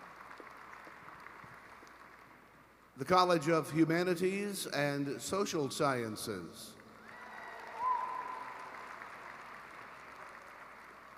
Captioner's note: applause